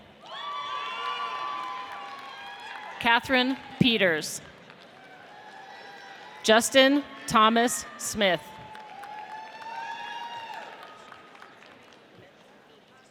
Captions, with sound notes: (audience cheers) Katherine Peters. (audience applauds) Justyn Thomas Smith. (audience cheers)